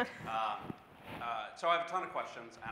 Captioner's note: laughs